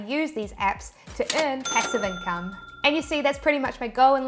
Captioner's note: cash register chimes